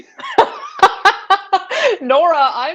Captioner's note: laughing